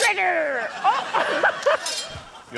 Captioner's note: laughs